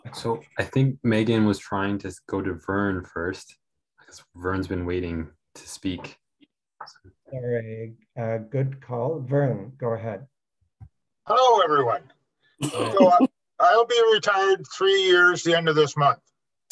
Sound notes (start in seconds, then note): 12.6 laughs